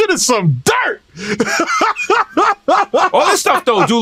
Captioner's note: laughing